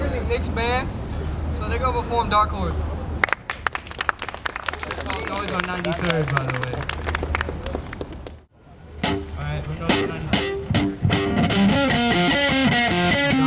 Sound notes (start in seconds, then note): 3.2 audience applauds; 10.3 upbeat rock music